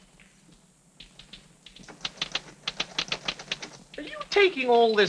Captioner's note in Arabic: نقر الآلة الكاتبة